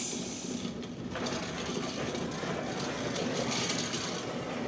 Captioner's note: machine rattling